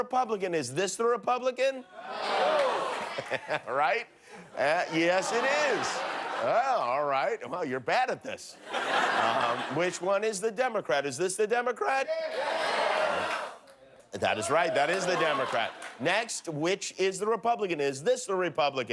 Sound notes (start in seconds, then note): 10.7 laughter